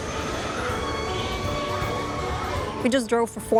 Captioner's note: screaming